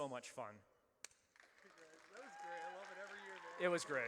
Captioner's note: audience cheers